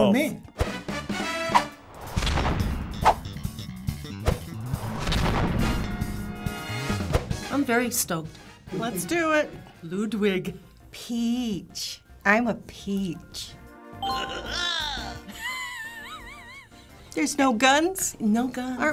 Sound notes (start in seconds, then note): 0.1 funk music; 14.8 snickers; 14.9 laughs